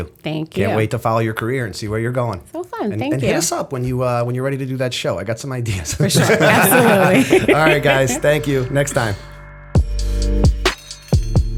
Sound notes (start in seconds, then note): 5.8 laughter